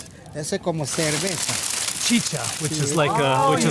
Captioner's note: man speaking in foreign language